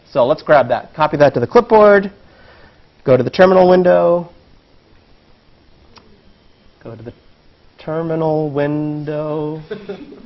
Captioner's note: laugh